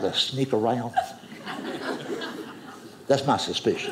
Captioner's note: audience laughing